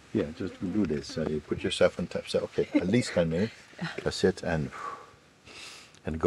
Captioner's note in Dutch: ademt uit